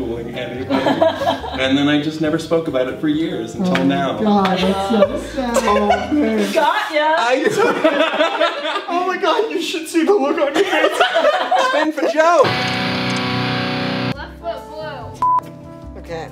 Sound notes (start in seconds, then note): 0.7 laughs; 7.5 laughs